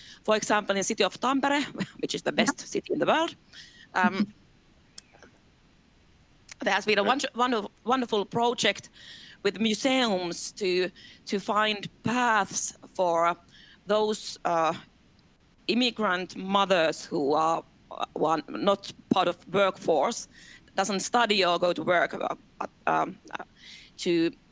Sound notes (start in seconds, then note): 3.9 laughs